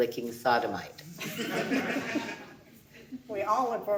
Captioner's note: audience laughing